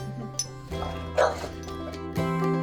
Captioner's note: dog barking; soft music